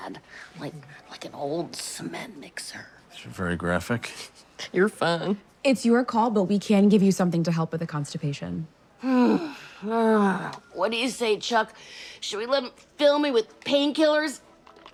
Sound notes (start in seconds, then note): 9.0 groans